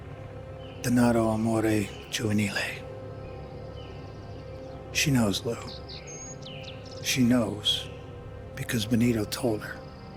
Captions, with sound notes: (Carmine speaking in Italian) She knows Lou. She knows because Benito told her.